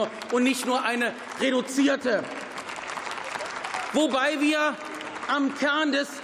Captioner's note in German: Beifall